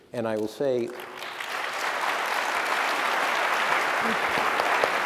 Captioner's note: applause